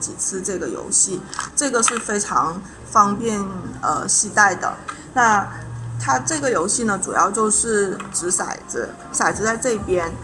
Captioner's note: explaining in Chinese